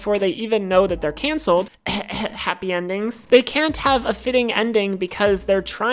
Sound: coughing sound

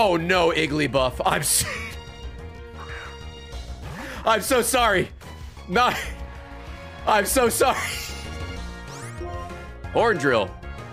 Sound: laughs

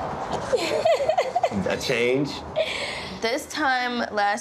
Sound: laughs

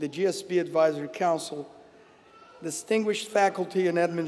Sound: none

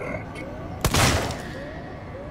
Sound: pow

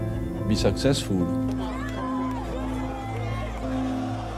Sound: cheering

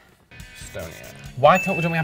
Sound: bell dings

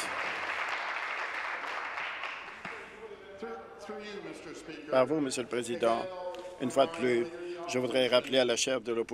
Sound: applause

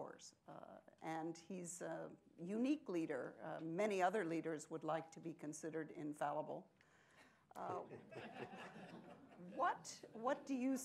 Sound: laughter

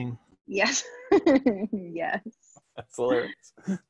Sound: chuckling

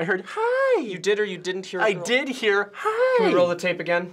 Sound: in high pitch; in high pitch

